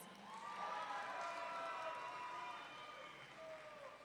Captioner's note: audience cheering